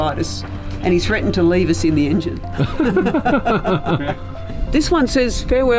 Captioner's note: laughs